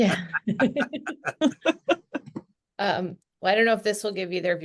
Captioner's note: everyone laughing